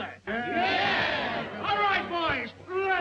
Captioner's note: crowd